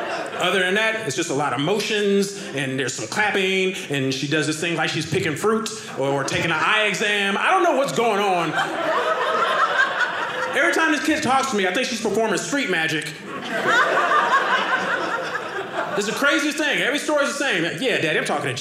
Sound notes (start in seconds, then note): 12.9 audience laughing